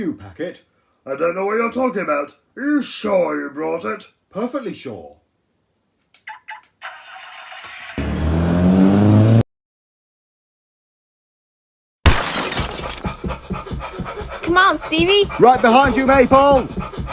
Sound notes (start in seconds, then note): 12.0 crash!; 12.7 panting; 13.0 running footsteps